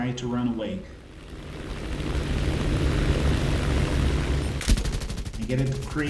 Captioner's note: aircraft Engines ,Gunfire, Flying Sounds